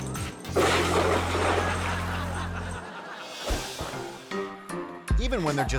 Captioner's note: water splashing; audience laughing